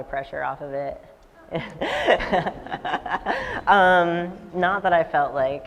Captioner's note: laughs